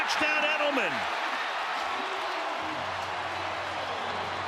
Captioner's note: crowd cheering